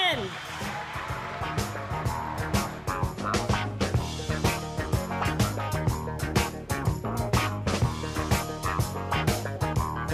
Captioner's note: applause